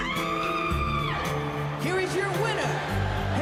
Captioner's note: screams